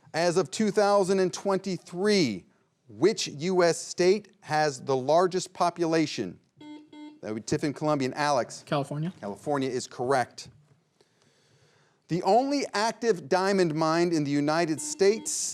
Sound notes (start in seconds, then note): 6.6 buzzer beeping